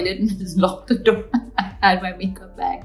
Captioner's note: Alia laughing